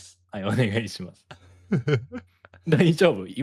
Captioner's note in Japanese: 笑い